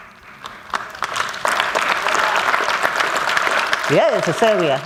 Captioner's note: applause